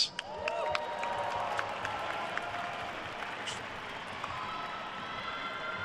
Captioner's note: attendees cheering and applauding